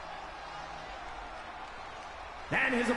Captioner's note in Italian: Applauso